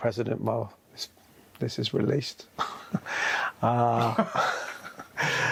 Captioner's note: guy laughs; laughs